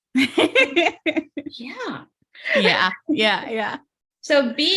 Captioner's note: laughs